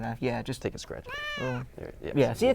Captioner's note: meow